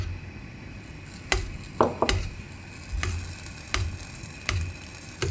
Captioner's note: sound of spilled starch sizzling in flame